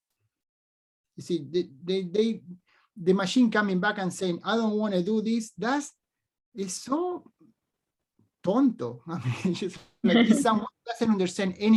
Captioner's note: speaks spanish